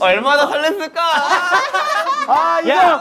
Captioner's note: haha